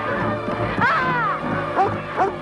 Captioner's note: Hundra shouts; Beast barking